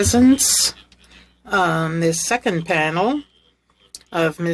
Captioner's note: speaking French